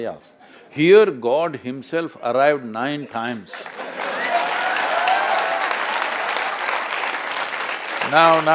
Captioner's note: laughter/Applause